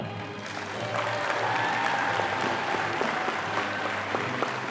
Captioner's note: audience applauding